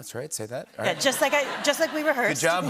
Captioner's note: laughter